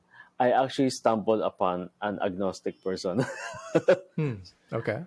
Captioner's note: laughs